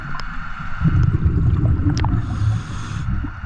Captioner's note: water rushing; audible breathing